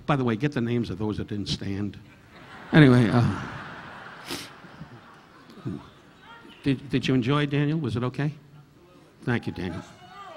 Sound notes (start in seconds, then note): 2.2 audience laughing